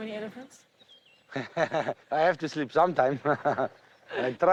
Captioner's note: laughs sarcastically